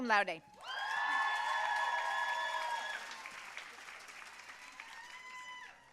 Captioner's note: audience cheering and applauding